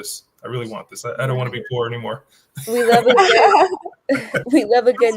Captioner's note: laughs